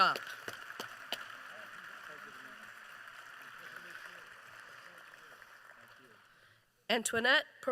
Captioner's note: applause